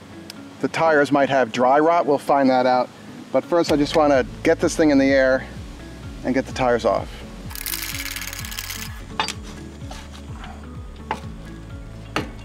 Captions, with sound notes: the tires might have dry rot. We'll find that out. But first I just wanna get this thing in the air, and get the tires off. (metal clanking)